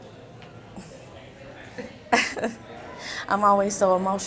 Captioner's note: giggling